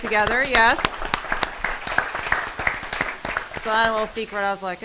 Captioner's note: applause